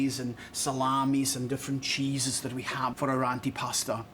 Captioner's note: none